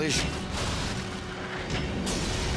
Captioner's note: explosions